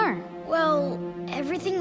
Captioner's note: none